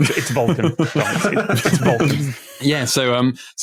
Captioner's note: guys laughing